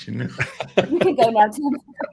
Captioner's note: laughter